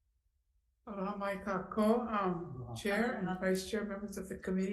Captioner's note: speaking in foreign language